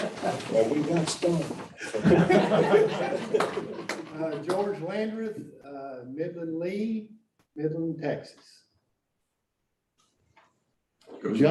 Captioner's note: everyone laughs